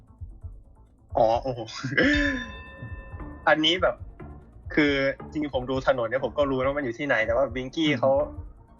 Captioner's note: laughs